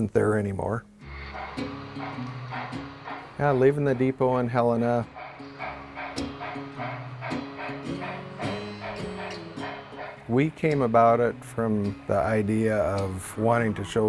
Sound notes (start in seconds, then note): 2.9 training chugging